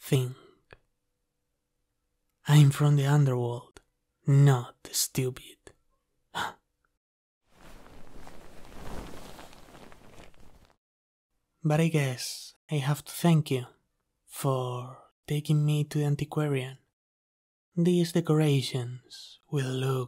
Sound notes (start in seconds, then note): 4.6 sigh; 4.6 sound of sitting on the couch